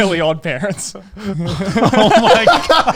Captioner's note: everyone laugh